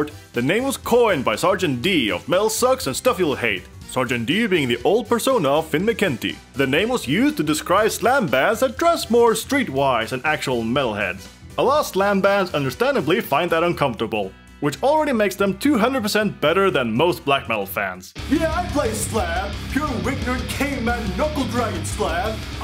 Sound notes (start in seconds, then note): none